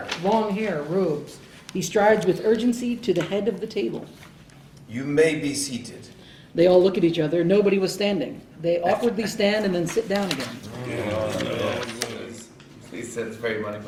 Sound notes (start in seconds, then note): 10.6 all grumble